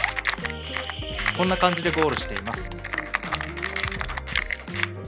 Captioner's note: typing sound clatter, clatter